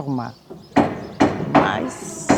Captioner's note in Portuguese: marteladas ao fundo